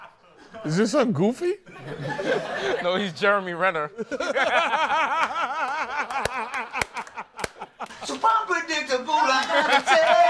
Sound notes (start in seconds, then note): 3.9 laughter; 7.8 singing